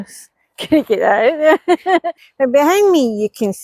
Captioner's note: laughter